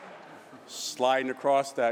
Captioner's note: laughter